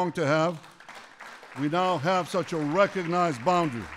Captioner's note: applause